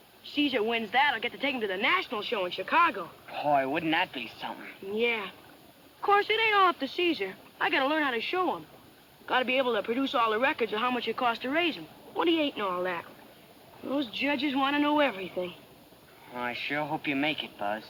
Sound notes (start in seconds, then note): none